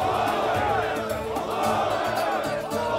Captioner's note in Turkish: Hep bir ağızdan